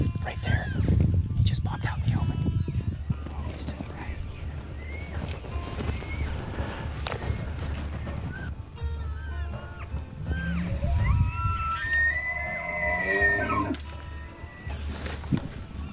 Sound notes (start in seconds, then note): 7.8 bluegrass music; 8.7 elk bugling